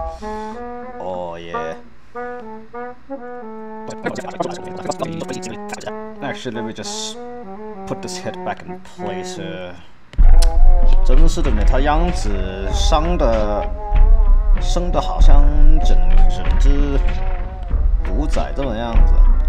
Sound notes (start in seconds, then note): 8.6 Mandarin